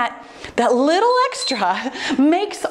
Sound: timer beeps

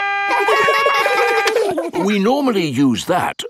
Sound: siren stops; siren wailing; kids laugh

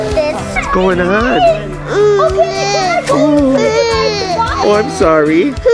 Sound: baby whines

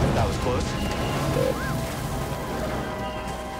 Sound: concurring whistle

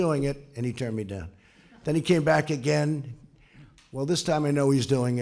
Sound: laughter

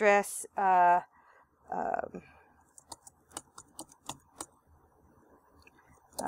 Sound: typing

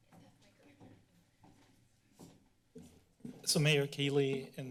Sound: background conversations; footsteps

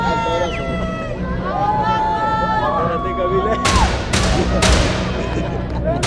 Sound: screaming

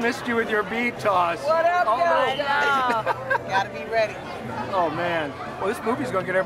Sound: laughter

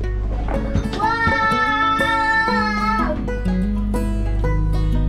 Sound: shouts; upbeat music continues

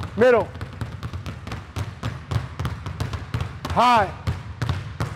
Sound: balls continue thudding

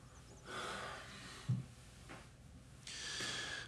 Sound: sighs

